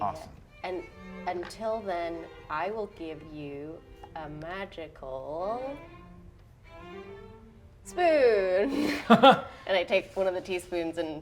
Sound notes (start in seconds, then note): 8.7 laughter